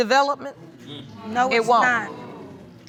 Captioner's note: audience groaning